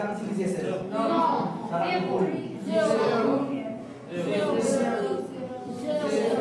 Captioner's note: children telling teachers in French